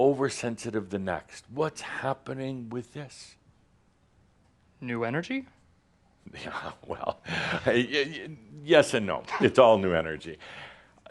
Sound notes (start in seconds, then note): 6.2 chuckling